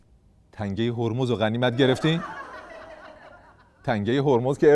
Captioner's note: laughter